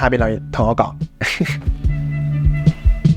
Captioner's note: laugh